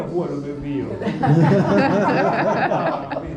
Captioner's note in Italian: risate